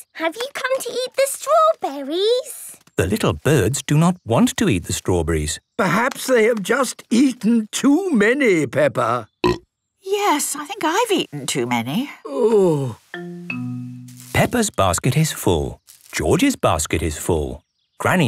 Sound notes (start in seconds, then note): 9.2 burp